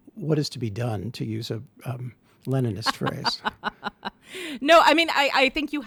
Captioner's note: chuckles